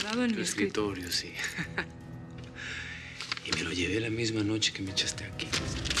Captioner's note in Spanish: risas